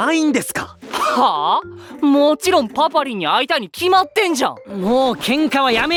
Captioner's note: snaps